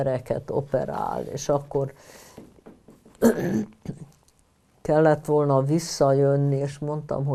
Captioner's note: clears throat